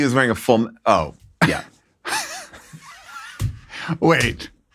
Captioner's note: laughing